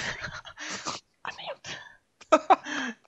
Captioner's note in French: rires